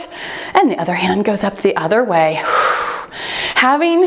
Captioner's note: exhales